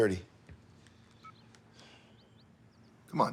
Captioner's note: cell phone beeps